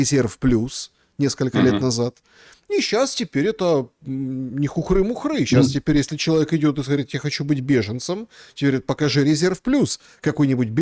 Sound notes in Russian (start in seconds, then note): 1.5 откашливается